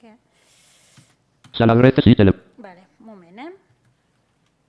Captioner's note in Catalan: veu del lector de pantalla